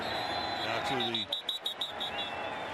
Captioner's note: whistle